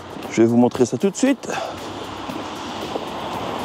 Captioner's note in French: Bruit de moteur